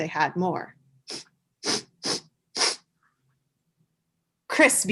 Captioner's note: sniffing sound effect/actor sound